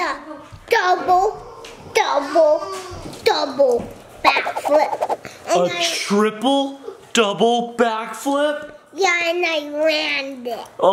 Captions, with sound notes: - I did the double, double, double back flip. (whoosh) - A I a triple double back flip. - Yeah. And I ran it.